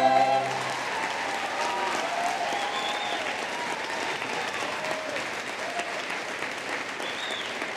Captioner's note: applause